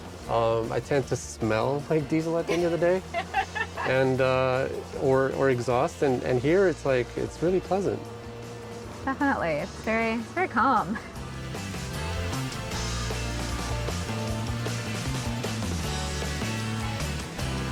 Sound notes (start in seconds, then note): 2.4 laughing; 11.4 cheerful music